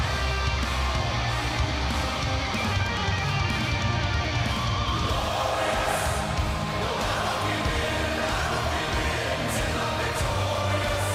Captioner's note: crowd cheering